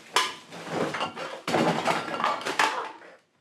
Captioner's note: garbage clattering